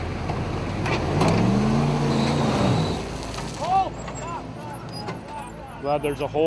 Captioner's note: Humvee engine races